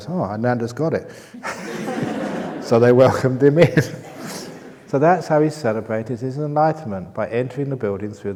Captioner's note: laughter